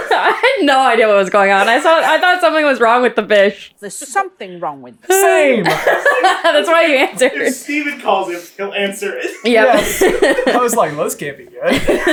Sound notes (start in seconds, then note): 5.1 laughing